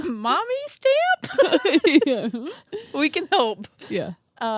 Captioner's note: both laugh